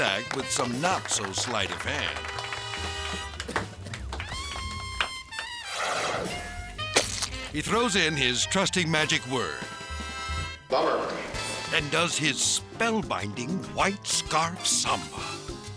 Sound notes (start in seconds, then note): 3.0 grandiose music; 6.9 object splats